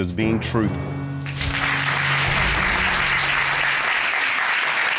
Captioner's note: applause